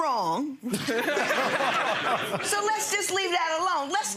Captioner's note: everyone laughing